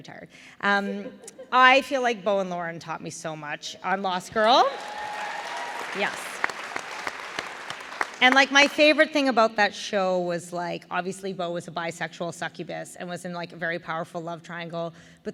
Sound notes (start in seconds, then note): 4.4 applause